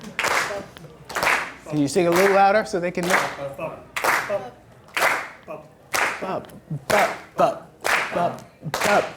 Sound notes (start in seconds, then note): 3.8 voiceover